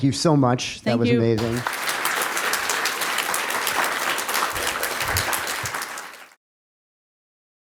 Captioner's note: applause